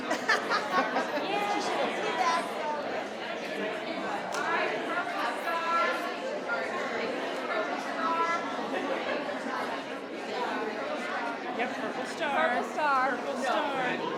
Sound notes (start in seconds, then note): 0.0 attendees laughing; 1.7 speaks faintly